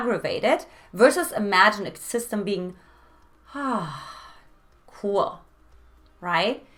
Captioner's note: sighs